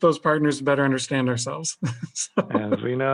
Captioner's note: laughing